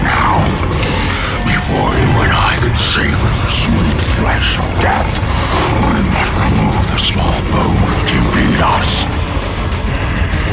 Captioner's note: unintelligible roar